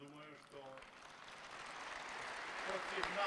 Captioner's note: applause